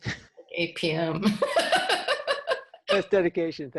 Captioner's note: laughter